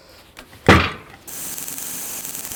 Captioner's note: metal clanks; saw whirring